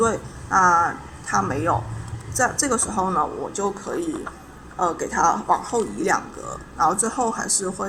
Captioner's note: explaining in Chinese